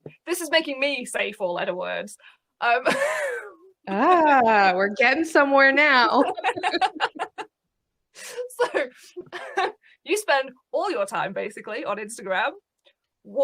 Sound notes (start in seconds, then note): 2.7 laughs; 6.1 both laugh